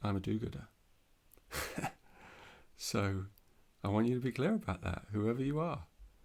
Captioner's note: laughs